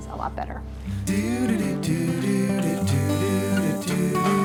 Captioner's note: humming